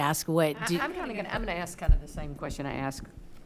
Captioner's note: stammering